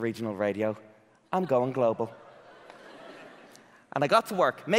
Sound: audience laughing

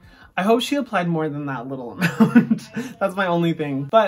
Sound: laughs

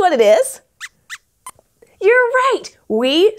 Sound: squeaks squeaks

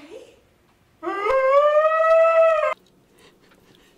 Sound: loud crying

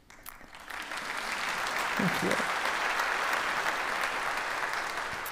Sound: audience applauds

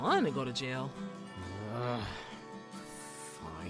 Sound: frustrated growl

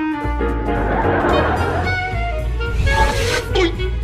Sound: audience laughs

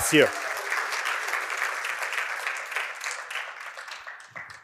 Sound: applause

